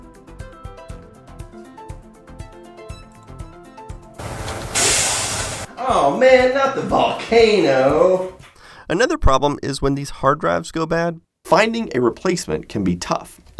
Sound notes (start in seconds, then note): 4.2 volcano strikes